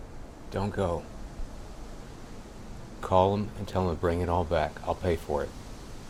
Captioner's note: none